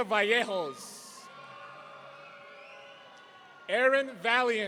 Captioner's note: audience cheering